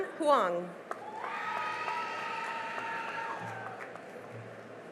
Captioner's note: cheering and applause